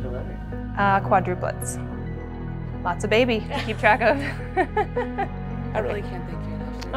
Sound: laughs

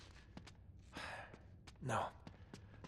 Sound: sigh

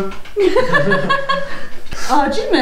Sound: laughs

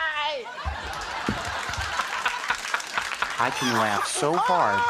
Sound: crows laughing

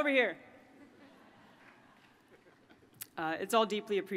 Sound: laughter

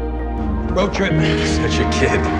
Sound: voiceover

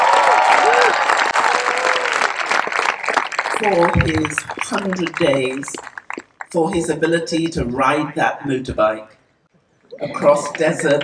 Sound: cheering/Applause

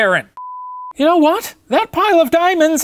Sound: beep

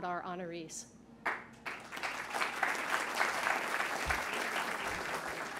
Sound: crowd applauding

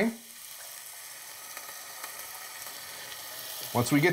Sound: sizzling

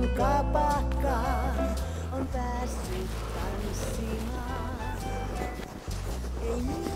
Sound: snow crunching

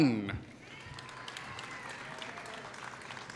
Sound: applause

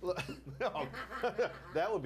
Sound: scattered laughs

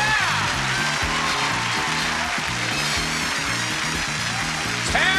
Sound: applause

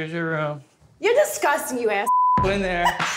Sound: beep

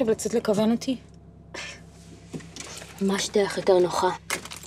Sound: scoffs

